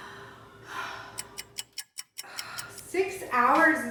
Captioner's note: clock ticking